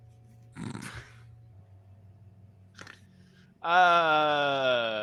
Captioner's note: chuckling